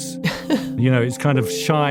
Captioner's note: laughs